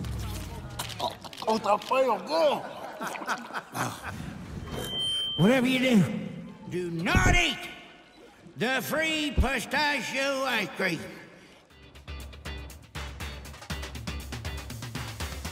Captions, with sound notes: (camera bulbs flashing) (chuckling) (microphone feedbacks) Whatever you do, do not eat the free pistachio ice cream. (upbeat music)